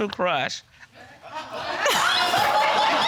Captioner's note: audience laughing